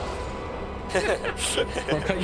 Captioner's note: both laugh